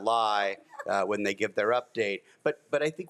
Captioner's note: group laughs